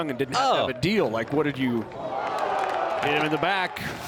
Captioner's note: crowd boos